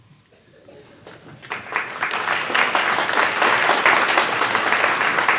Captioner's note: applause